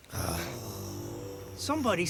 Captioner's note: soft grumbling